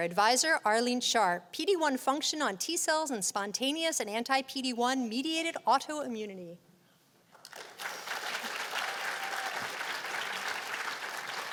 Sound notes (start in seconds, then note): 7.3 applause